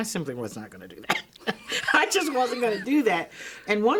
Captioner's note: both laugh